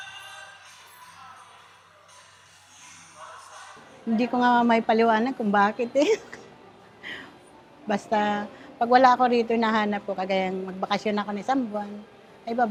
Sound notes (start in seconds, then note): 6.0 chuckles